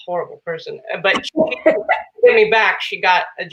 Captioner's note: laughing